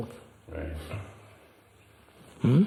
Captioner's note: laughs